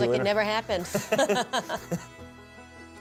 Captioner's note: laughing